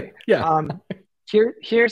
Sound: laughter

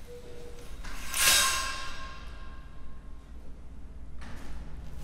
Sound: metal scraping

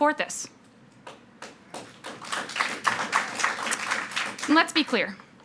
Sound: audience clapping

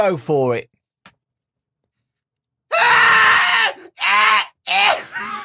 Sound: unholy screaming

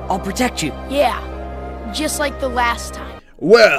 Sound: sarcastically

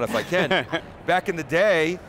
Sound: laughs

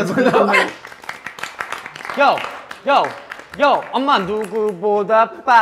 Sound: clap clap*👏👏👏

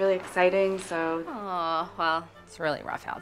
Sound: none

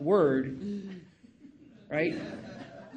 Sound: audience laughing

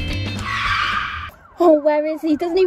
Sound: car tyres screeching

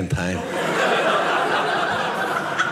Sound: audience laughing

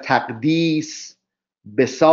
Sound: persian reading

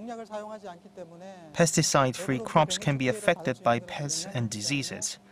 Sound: Korean

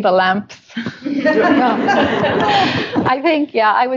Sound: laughter

